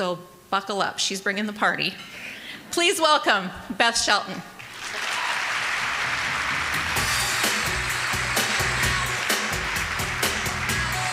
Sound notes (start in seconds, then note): 4.6 applause